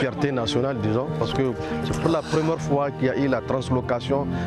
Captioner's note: foreign language